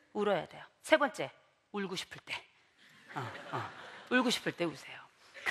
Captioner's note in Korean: 웃음